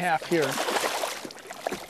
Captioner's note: splash